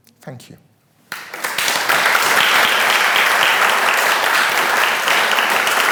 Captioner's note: attendees clapping